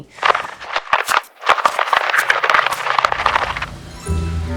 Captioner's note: paper crunching; dramatic music